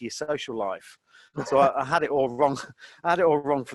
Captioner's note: both laughing